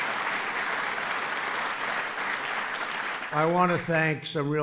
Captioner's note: applause